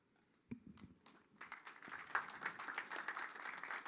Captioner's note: applause